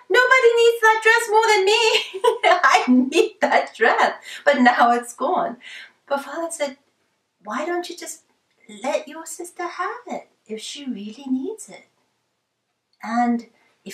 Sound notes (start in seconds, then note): 2.1 laughs